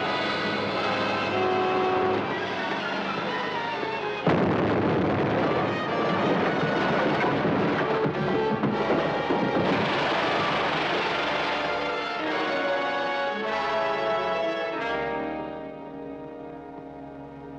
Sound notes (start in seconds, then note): 0.2 smoke hisses; 2.0 dramatic music; 4.1 bridge booms; 9.4 dramatic music; 9.7 water splashes